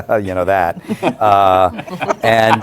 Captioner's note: laughter